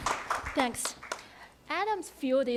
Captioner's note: applause